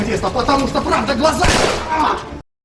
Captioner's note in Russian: выстрел